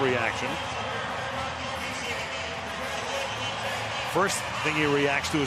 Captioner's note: pa announcement